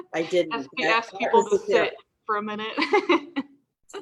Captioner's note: laughs